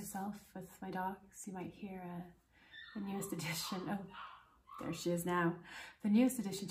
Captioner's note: high-pitched barking in the distance